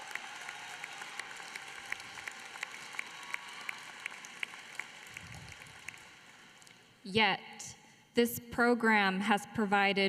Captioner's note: applause